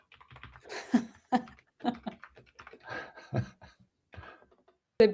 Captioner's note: laughter